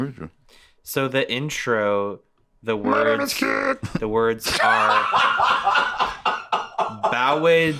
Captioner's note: laughing